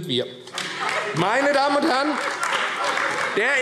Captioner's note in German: Beifall AfD - Lachen